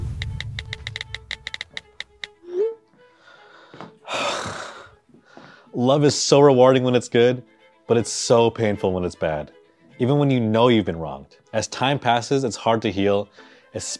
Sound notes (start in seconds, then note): 0.0 dramatic music; 4.0 host sighs